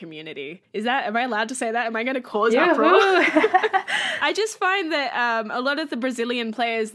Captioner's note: laughs